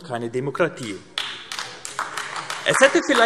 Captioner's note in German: Beifall AfD